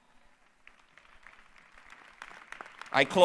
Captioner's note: applause